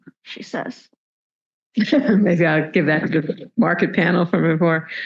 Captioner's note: chuckles